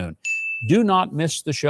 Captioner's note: bell chiming